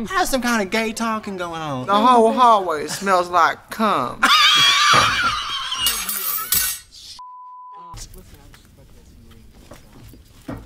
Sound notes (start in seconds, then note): 4.2 Katya laughs; 5.7 metal tinkles; 7.2 beep